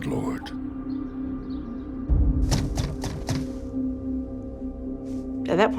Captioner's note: knocking on the front door